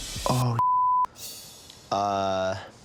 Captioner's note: beep